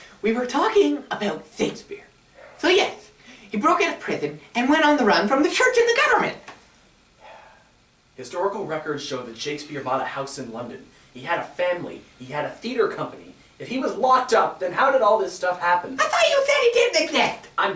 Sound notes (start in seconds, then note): 7.2 Sampson sighs